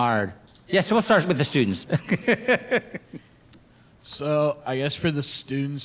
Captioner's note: laughs